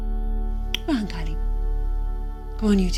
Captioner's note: in irish